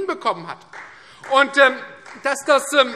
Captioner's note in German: Beifall Freie Demokraten